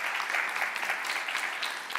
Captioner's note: applause